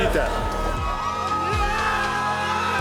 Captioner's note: fans cheering